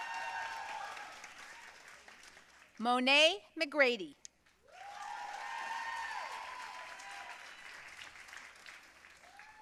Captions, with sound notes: Monee McGrady. (audience cheering and applauding)